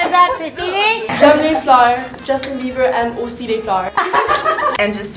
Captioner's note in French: rires